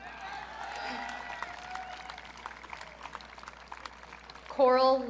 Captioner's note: audience cheering